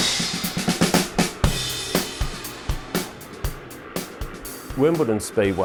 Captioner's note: lively music; bikes droning